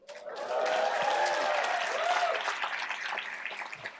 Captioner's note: cheering and applause